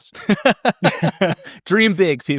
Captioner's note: laughing